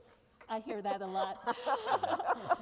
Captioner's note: laughter